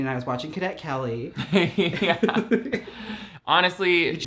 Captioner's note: laughs